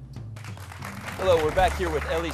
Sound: clapping

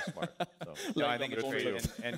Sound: laughter

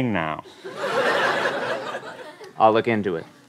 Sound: laughter

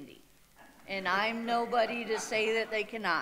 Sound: audience laughing

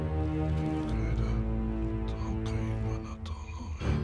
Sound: non-english speech

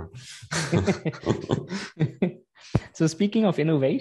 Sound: laughter

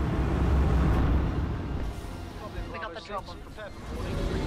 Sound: radio chattering

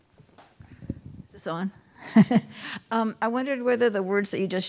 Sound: woman 2 chuckling

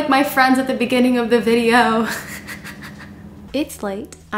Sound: laughs

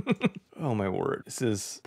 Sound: laughs

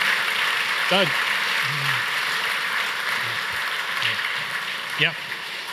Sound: audience applauds

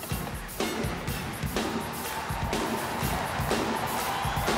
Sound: audience applauding

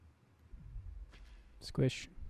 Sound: splat

